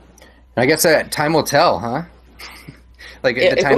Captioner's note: chuckles